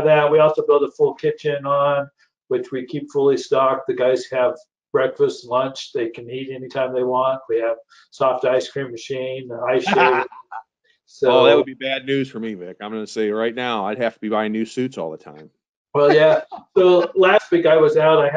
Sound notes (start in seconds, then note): 10.3 laughs